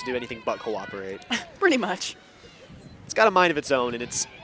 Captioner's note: chuckles